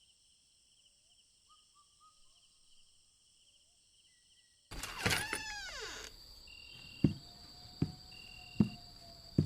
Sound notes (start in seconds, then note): 4.7 door Opens; 6.7 footsteps